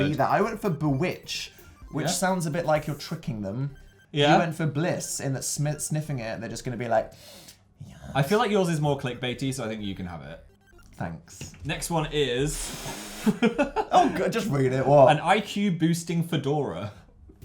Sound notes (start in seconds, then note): 6.7 sniffs; 6.9 quietly; 13.2 chuckles